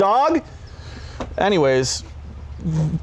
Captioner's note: laughs